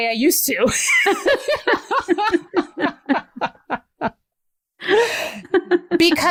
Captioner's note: laughter